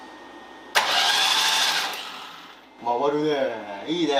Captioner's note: engine whirring